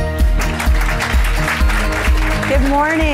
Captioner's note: upbeat music; audience applauding